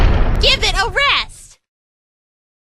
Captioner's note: slam